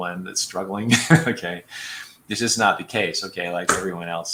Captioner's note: laughter